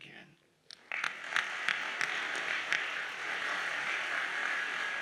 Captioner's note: audience applauds